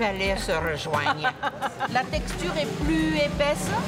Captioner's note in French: rires